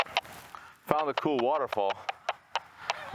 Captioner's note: radio chatter